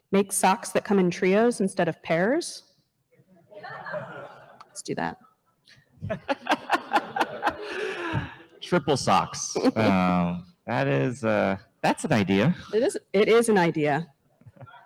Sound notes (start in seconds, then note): 2.7 enthusiastic murmuring from audience; 6.0 laughs